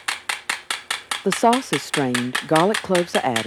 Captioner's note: voiceover